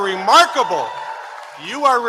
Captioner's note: applause